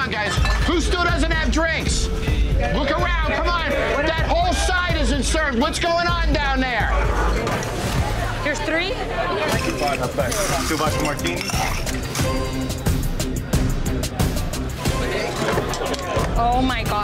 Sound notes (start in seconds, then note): 13.8 loud chatter